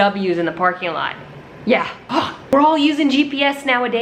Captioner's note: groans